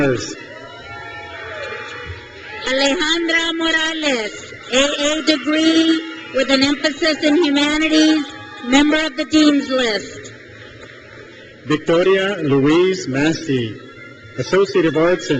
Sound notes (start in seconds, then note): 0.1 crowd cheers; 9.9 crowd cheers